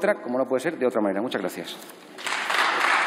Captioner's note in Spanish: Aplausos